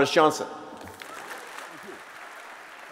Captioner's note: applause